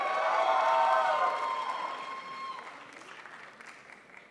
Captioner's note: crowd applauds